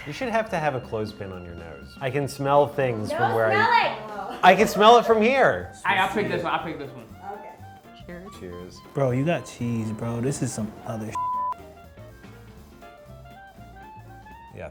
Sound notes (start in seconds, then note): 11.1 beep; 12.0 upbeat lively music